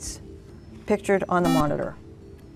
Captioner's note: buzzer